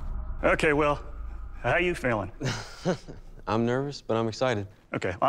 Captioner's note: laughs